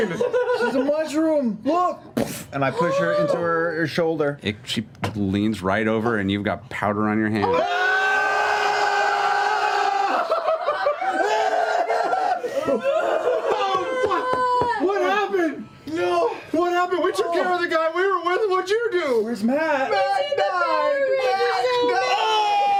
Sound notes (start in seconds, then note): 7.7 shouting; 20.3 shouting